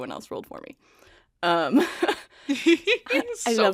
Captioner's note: laughs; laughing